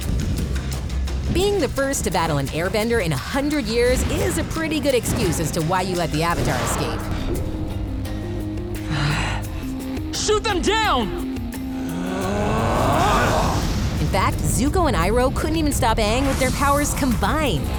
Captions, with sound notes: Being the first to battle an airbender in 100 years is a pretty good excuse as to why you let the Avatar escape. Shoot them down! [grunting] In fact, Zuko and Iroh couldn't even stop Aang with their powers combined.